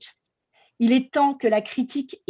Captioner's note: speaking french